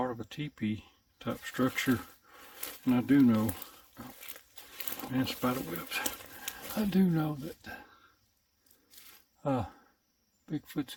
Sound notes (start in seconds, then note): none